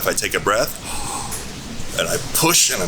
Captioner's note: inhaling